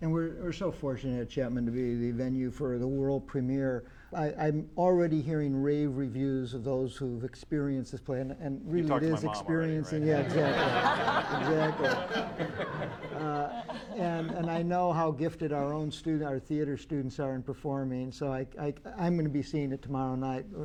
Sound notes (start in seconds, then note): 9.8 laughter